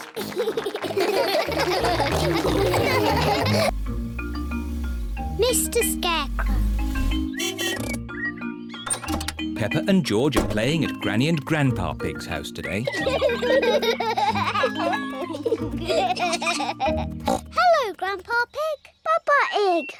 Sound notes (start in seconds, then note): 0.0 all laugh; 7.3 honking; 12.8 both giggle; 17.2 oinks